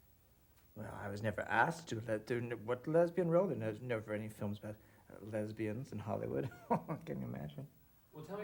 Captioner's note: laughs